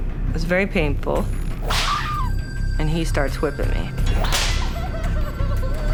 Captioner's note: whip cracks; screams